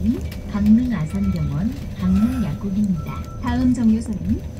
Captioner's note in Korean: 하차벨 소리